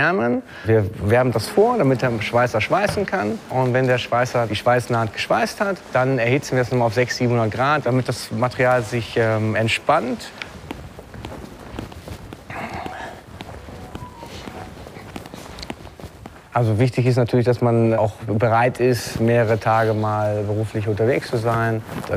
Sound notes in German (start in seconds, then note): 13.5 Nachrichtenton im Hintergrund